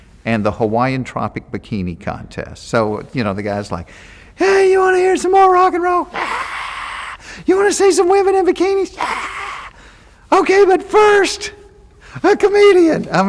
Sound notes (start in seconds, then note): 6.2 Jeff imitating crowd cheering; 9.0 Jeff imitating crowd cheering